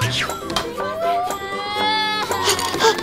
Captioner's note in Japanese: 男の子の泣き声